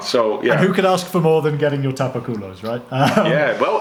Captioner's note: laughs